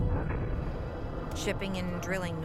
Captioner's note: thudding explosion